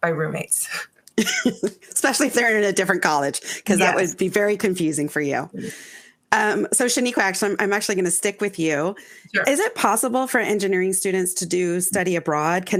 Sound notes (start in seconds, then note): 1.1 laughing